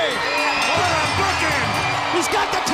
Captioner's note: bell ringing